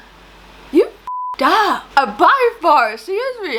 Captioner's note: beep